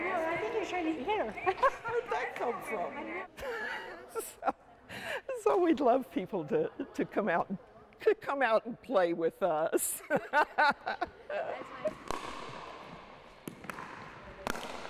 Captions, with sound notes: I think you were trying to hit her. Where did that come from? [Laughs] So we'd love people to come out, come out and to play with us. [Laughs]